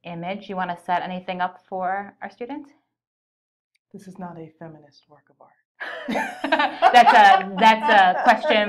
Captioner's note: laughter